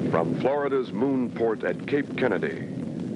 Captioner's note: rocket launching